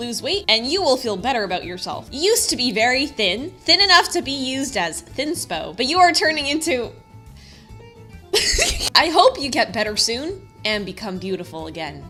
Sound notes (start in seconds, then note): 8.3 laughs